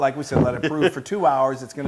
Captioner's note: laughs